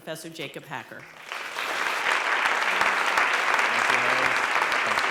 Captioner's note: applause